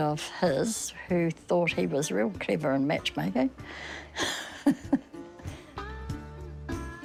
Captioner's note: laughs